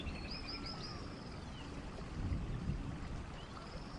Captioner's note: birds chirp